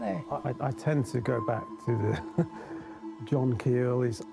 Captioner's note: chuckles